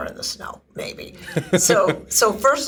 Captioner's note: laughs